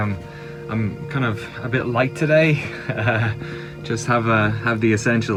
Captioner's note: chuckles